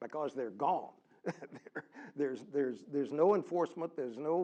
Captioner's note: laugh